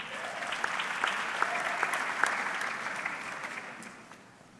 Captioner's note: audience clapping